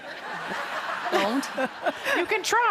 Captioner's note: audience laughs